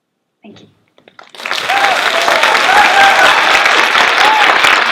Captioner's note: applause; cheers